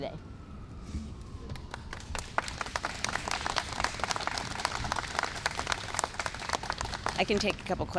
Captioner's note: applause